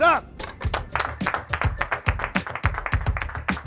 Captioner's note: clapping